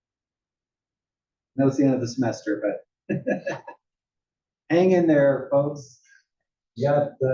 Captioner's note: laugh